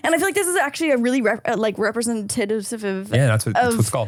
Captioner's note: struggling to say representative